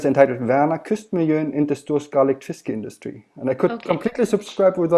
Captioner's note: speaking in Swedish